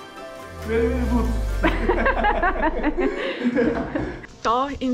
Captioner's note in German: lachen